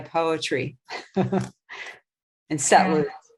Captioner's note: chuckling